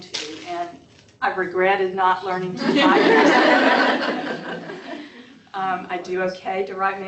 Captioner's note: laughter